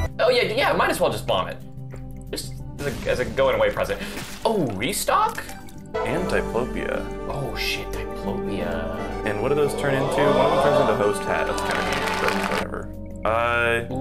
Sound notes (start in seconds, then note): 4.0 gasp; 9.8 crowd hyping up; 9.8 crowd cheering and clapping